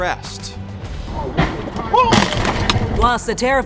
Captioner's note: car crunching